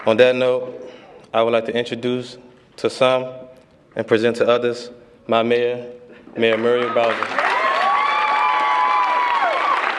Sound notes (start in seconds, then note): 6.6 cheers and applause